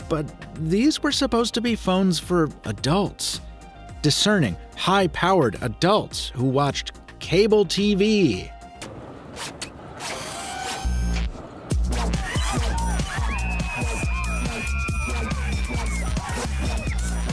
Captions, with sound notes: But these were supposed to be phones for adults, discerning, high-powered adults, who watched cable TV. (speakers whirring) (dance music) (girl screaming)